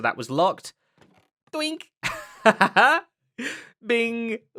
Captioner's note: laughs